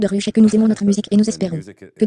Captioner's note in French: des rires